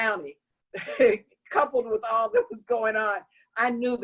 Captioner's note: laughter